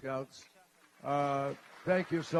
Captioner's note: applause